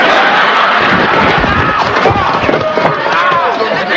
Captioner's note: thud